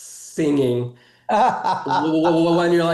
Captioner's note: laughing